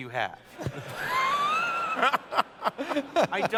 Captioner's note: laughter